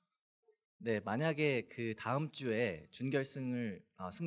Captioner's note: speaking korean